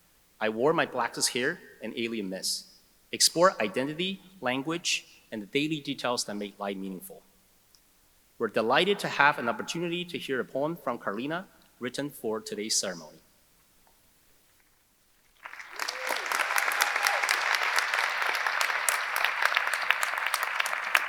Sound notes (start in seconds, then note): 15.3 audience applauding; 15.4 audience cheering